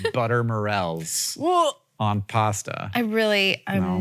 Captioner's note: Rachel gags